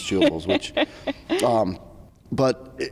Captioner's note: laughs